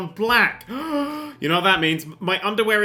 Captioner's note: gasp